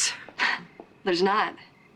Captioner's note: scoffs